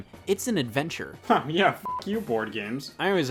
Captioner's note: beep